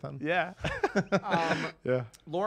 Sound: laughs

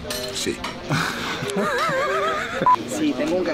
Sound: laughs

